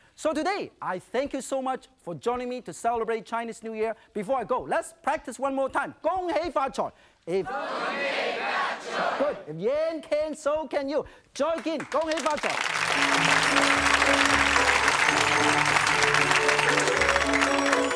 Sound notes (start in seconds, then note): 5.9 speaking in foreign language; 11.5 clapping; 15.0 joyful music